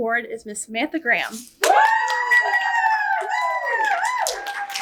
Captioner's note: audience cheers